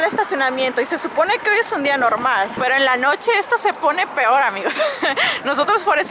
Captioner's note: laughs